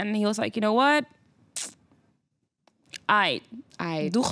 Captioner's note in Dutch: dramatische stilte